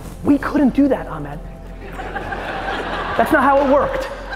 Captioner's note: audience laughing